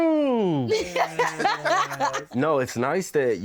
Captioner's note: laughing